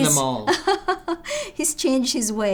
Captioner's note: laughing